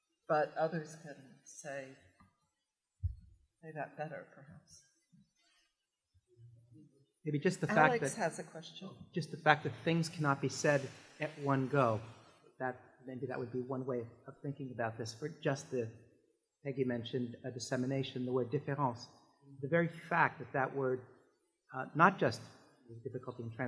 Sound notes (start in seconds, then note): 19.0 french